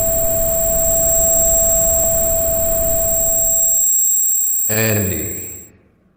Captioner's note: ringing and hum fade out; dreamlike voice